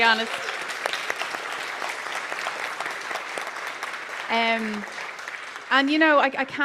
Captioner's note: applause